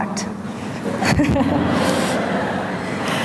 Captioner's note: audience laughter